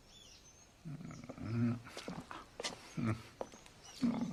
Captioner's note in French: Il fredonne